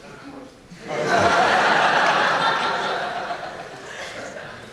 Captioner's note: laughing